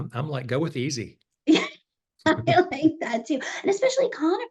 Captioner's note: laughs